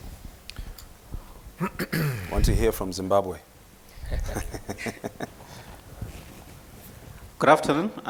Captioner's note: chuckling